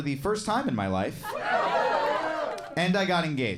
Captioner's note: audience laughing and cheering